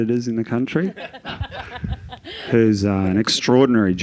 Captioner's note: Joel and Sophie laughing